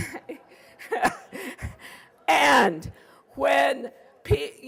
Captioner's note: laughing